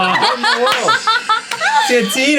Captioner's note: ladies laughing